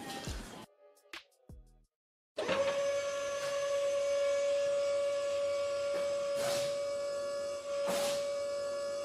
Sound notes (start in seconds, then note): 2.4 car lift buzzes